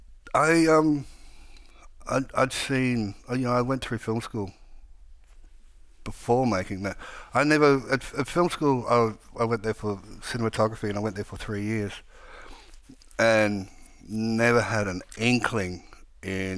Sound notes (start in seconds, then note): none